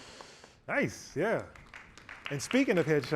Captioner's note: applause